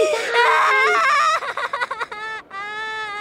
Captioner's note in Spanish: llanto fuerte